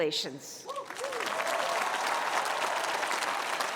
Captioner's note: cheering